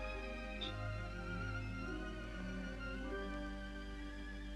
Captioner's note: glasses clink